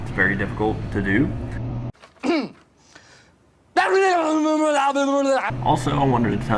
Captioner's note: clears Throat